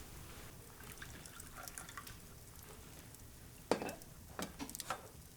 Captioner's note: liquid trickles